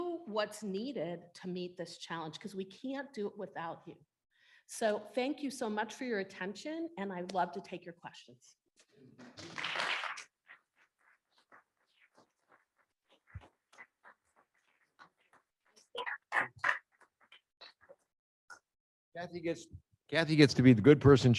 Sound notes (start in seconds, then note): 9.3 applause